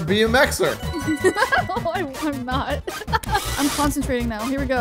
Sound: laughing

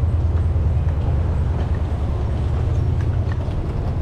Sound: vehicles humming

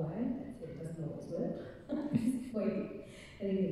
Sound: laughing

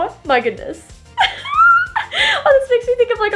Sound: laughing

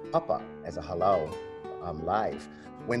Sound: in Hawaiian language

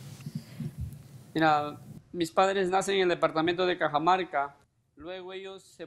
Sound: speaks in Spanish

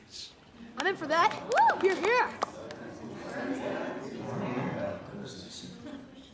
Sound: chattering

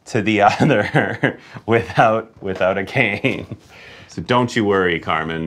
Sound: laughing

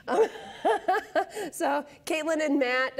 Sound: laughs

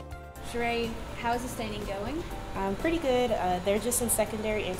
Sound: sound of researchers in lab

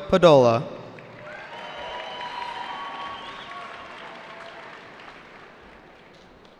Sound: cheering

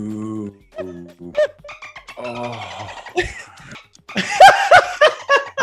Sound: laugh

